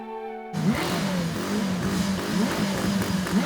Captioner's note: car engines revving